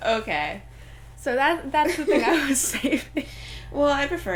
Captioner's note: laughing